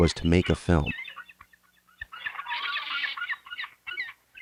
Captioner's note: sea gulls squawking